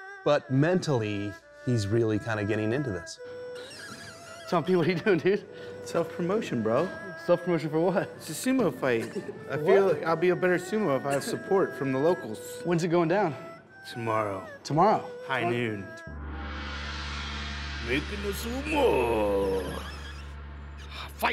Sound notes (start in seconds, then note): 16.0 gong sounds